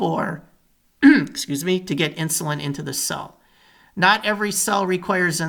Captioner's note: clears throat